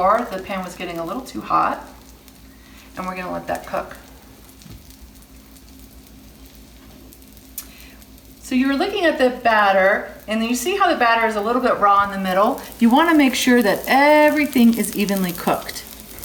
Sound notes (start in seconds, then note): 4.5 dosa sizzles